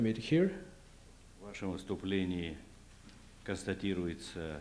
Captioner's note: non-english speech